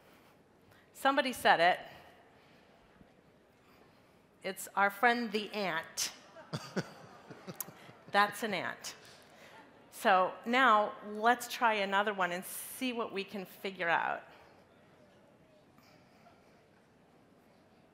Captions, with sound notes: Somebody said it. It's our friend, the ant. (crowd laughs) That's an ant, so now let's try another one and see what we can figure out.